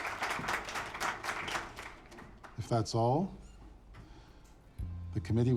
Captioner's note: audience applauds